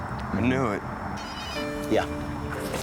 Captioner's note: phone rings